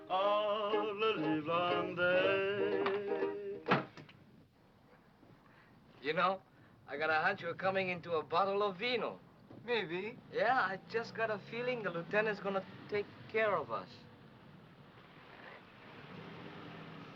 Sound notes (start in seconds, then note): 3.7 window slams; 14.8 vehicle approaching